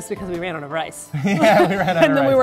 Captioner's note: reprise: cute couple giggles